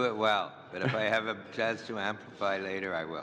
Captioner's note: laughter